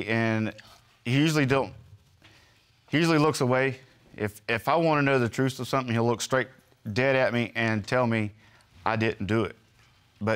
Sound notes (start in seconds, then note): none